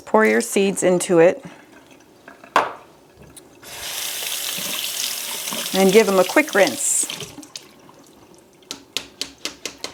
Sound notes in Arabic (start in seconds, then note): 3.6 جاري المياه